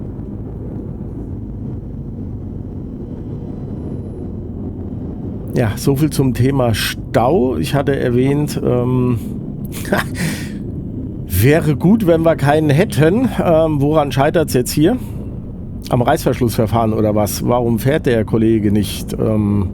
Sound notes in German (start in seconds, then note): 9.7 gelächter